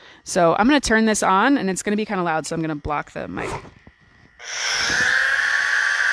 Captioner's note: saw sounds